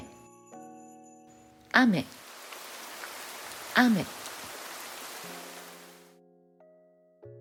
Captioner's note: rain